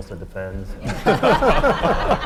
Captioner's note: laugh